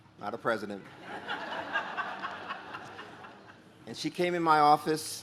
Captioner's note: audience laughs